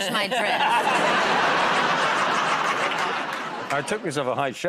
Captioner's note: laughter